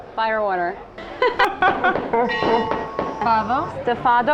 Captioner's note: laughing becomes garbled followed by a bell sound